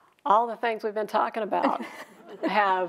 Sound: chuckling

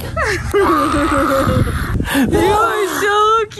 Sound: growls

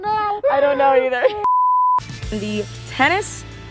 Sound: laughs; beeping

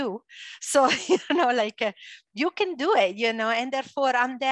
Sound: laughs

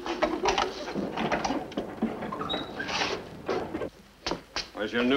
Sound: door creaks

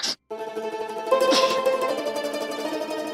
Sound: chuckling

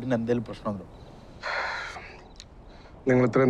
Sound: sighs

